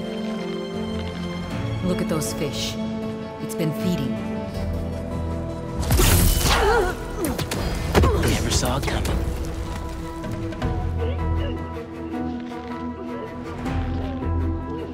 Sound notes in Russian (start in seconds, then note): 6.3 Вздох; 10.9 Борьба